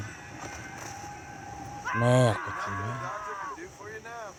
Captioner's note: cries of pain and death